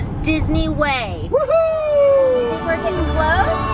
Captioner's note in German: Kinder Jubel